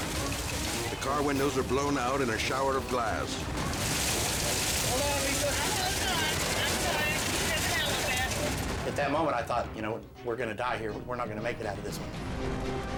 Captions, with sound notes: The car windows are blown out in a shower of glass. (glass shattering) - Hold on, Lisa. - I'm holding on. I'm trying. - At that moment, I thought, you know, we're gonna die here. We're not gonna make it out of this one.